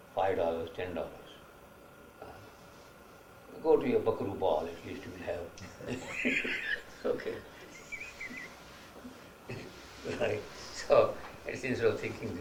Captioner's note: laughs